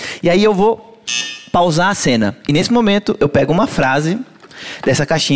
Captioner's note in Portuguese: campainha